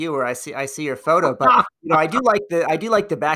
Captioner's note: laughs